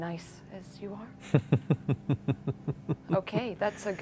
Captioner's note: laughs